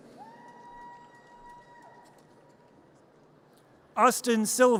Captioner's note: audience cheers